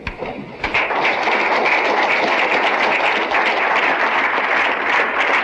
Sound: applause

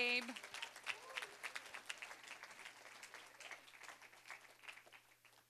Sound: applause

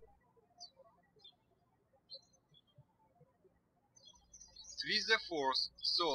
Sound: birds chirping

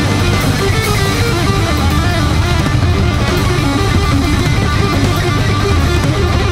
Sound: crowd cheering; fast paced rock music

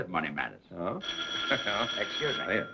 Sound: phone rings

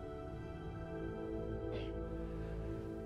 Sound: clears throat

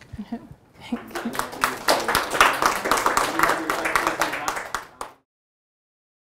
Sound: audience applauds

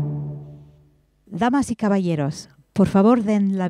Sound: speaking spanish

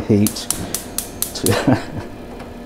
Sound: gas ignition clicking; laughs

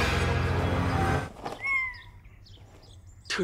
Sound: cat meaowing

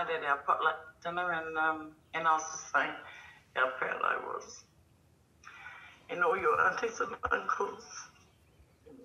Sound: tearfully

